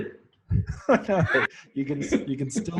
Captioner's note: both laugh